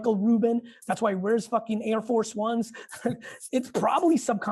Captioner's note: Gary chuckles